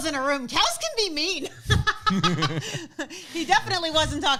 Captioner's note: laughs